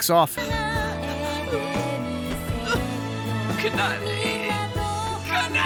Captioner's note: crying like a little bitch